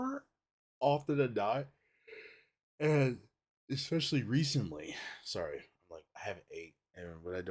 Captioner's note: yawns